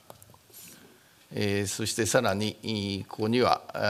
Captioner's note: speaking japanese